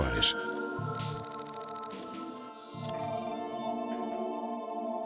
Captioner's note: electronic whirring